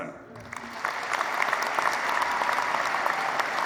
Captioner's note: clappping